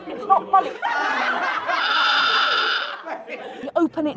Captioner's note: students laughing